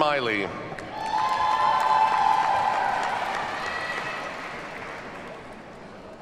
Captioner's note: audience cheers and applauds